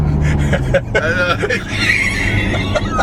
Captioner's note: laughter